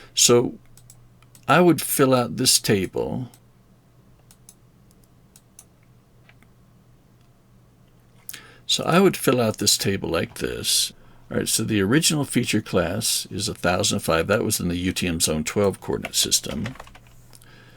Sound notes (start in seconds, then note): 4.2 mouse clicking